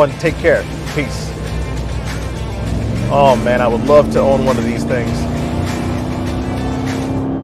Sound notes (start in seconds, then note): 1.9 upbeat music; 5.0 vehicle engine roaring; 5.8 upbeat music